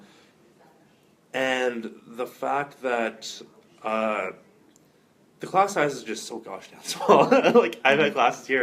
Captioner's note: laughter